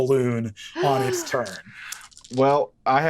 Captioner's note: gasps